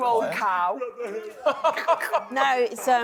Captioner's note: laughs